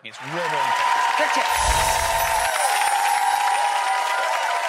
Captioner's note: audience applauding